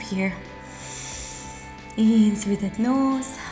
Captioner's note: deep breath